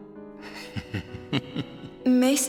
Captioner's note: chuckles